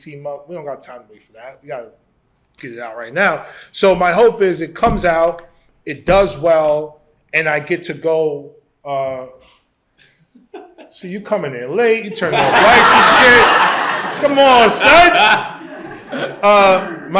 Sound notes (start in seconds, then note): 10.4 laughs; 12.2 laughter